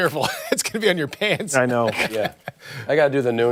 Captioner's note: laughter